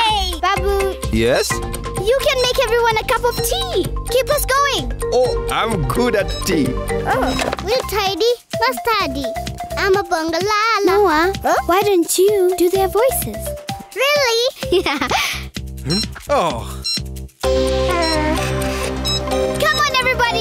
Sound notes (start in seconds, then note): 17.5 beeping